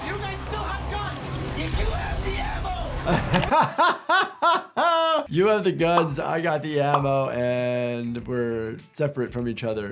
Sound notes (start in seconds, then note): 3.0 laughs